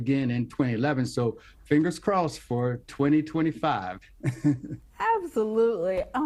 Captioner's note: chuckling